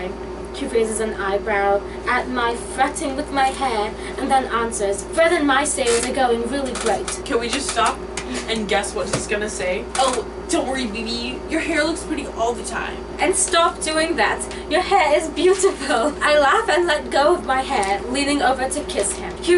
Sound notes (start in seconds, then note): 10.0 mocking